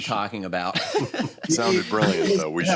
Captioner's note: laughter